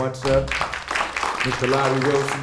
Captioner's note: applause